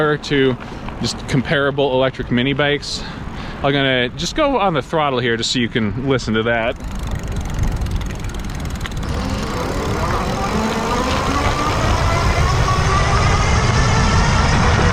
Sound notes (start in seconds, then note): 9.7 motor running